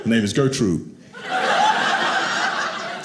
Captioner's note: audience laughing